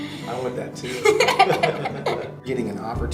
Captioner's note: laughs